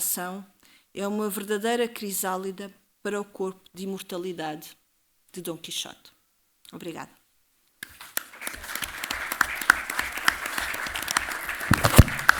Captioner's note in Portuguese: aplausos